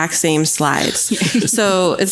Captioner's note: laughs